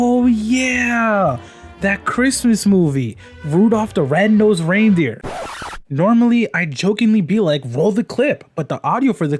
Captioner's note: record scratch freeze frame noise